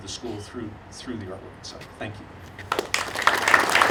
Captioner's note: audience applauding